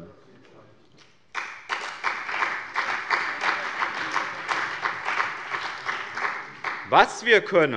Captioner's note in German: Beifall bei dem BÜNDNIS 90/DIE GRÜNEN und der CDU